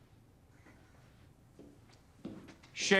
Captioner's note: footstep